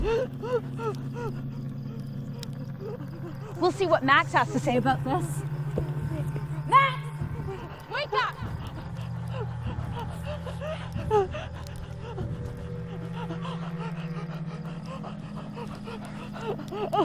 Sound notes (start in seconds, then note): 8.6 Andrea gasping